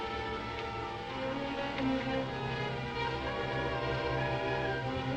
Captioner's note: The Juggernaut whirs